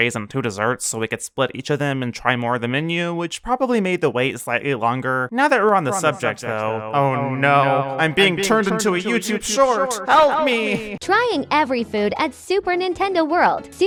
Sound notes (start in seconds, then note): 5.6 echoing; 10.6 TikTok AI voice